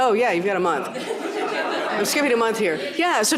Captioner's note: laughter